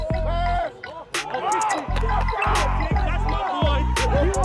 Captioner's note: crowd cheers